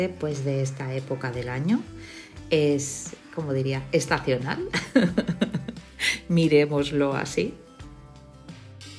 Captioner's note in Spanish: risas